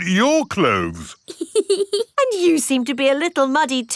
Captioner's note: laughs